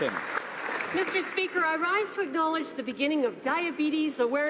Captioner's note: applause